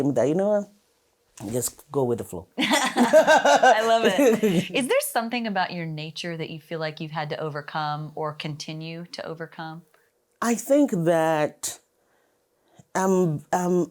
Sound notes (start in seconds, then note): 2.6 jovial laughter